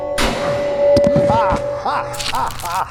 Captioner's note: gunshot; Gore laughs